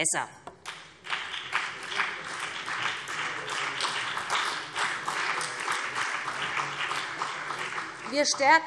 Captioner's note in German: Beifall BÜNDNIS 90/DIE GRÜNEN und CDU